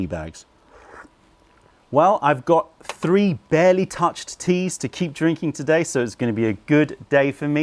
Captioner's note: sips tea